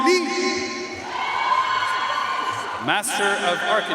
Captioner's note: audience cheering and applauding